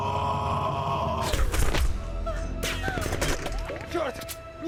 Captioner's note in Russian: выстрелы и крики